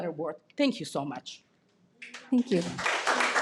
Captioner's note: audience applauding